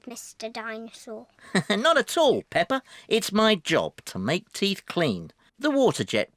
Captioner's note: laughs